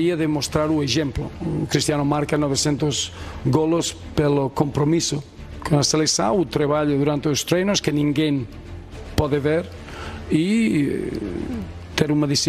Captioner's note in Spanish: hablando portugués